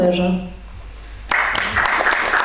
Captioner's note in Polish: oklaski